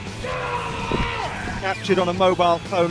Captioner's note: screaming